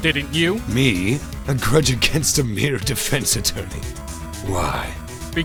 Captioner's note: laughs